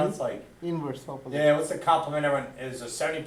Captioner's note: voiceover